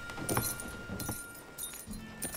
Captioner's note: shoes jingling